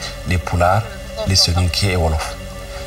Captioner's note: Wolof